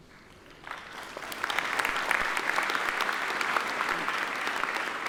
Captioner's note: audience applauding